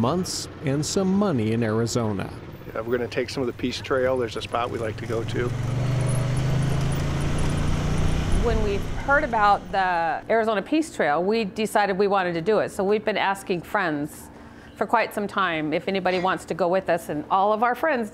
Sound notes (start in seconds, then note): 6.9 atv rumbling